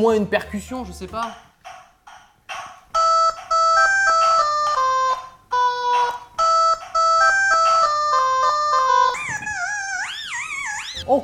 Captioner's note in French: Bruits de raquettes